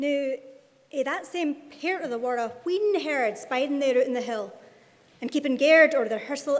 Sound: speaking in Scots

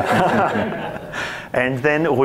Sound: audience laughs

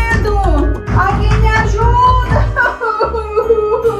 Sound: crying

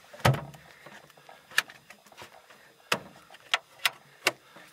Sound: freezer door thumping

